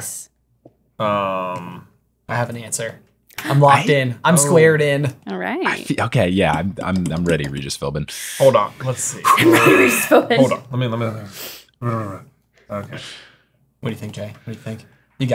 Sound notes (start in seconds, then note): 3.5 gasping; 7.8 buttons clicking; 11.2 exhaling